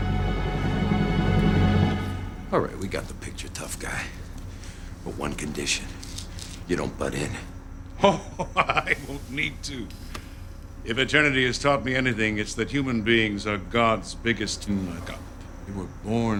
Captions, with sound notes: All right, we got the picture, tough guy. But one condition -- you don't butt in. [ Chuckling ] Oh, I won't need to. If eternity has taught me anything, it's that human beings are god's biggest muck-up.